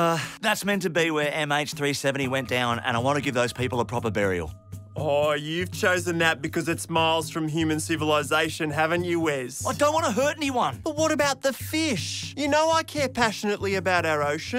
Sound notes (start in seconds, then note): none